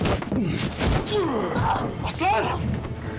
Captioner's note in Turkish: Tokat sesi